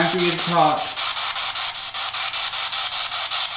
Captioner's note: static